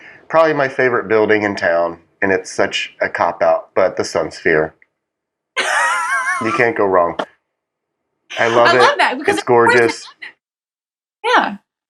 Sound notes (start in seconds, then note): 5.6 laugh